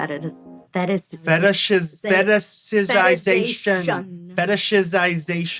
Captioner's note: struggles to say "fetishization"